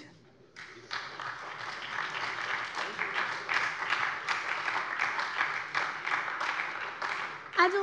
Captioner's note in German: Beifall bei der SPD, der LINKEN und der FDP